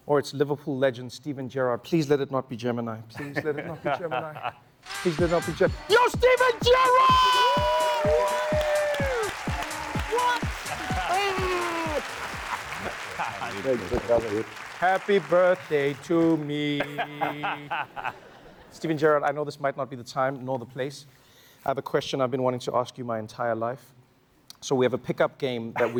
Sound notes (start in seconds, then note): 12.2 applause